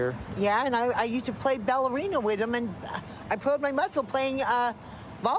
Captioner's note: none